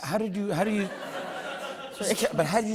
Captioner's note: laughter